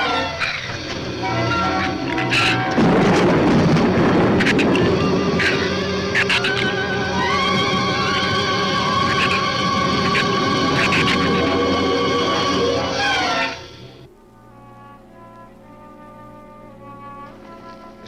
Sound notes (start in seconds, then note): 1.3 shrew snarls; 2.5 thunder claps; 9.0 shrew chatters; 14.0 bleak orchestral music